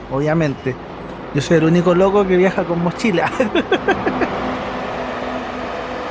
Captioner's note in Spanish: risas